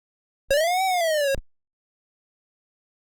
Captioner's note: 8-bit computer sound effect